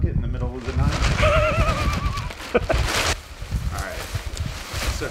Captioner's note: Josh laughing